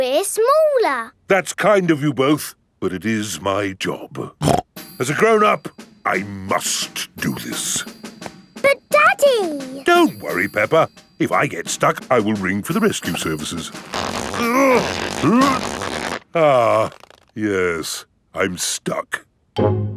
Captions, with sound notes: We're smaller! That's kind of you both, but it is my job. (SNORTS) As a grown-up, I must do this. But, Daddy! Don't worry, Peppa. If I get stuck, I will ring for the rescue services. (GRUNTING) Ah... Yes, I'm stuck.